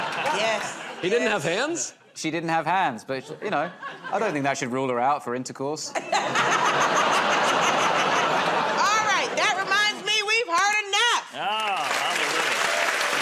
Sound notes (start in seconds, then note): 5.9 laughter; 13.0 cheers and applause